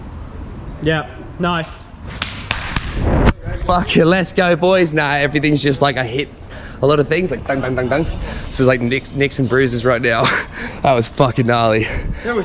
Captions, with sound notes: yep nice *Swooshing sound* Farkin' let's go boys now everything's just like a hit a lot of things like bang bang bang bang so like nicks and bruises right now that was fcukin' gnarly